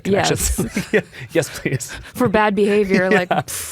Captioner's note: chuckles